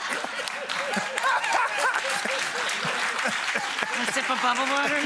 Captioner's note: everyone laughs; audience applauds